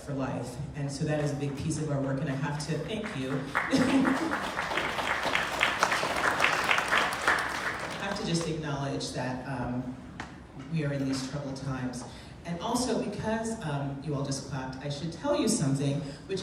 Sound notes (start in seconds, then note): 4.7 clapping